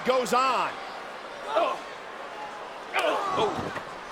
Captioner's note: wrestlers grunting